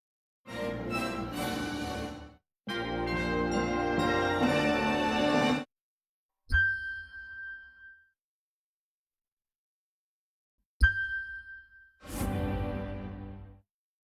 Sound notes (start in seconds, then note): 0.2 orchestral music plays; 6.5 ding